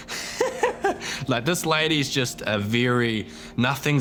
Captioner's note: laughs